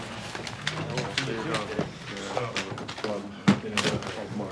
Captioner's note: group muttering